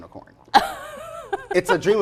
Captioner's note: laughs